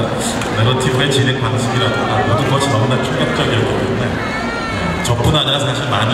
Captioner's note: speaking Korean